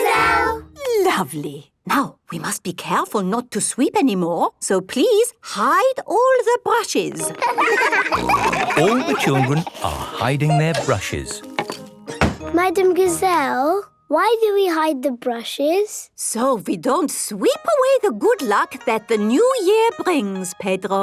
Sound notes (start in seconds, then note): 7.1 snorting; 7.2 laughter